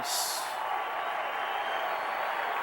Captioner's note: crowd cheering